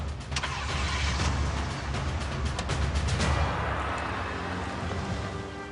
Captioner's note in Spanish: Ruido al prender el motor